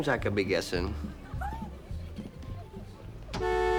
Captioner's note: giggling